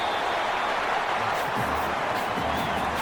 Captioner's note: crowd Noises